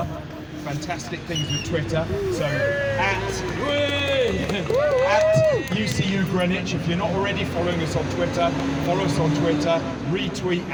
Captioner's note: applause